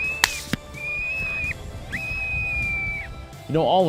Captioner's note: gunshot